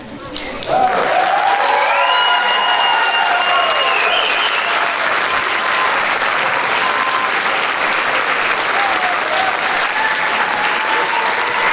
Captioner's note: applause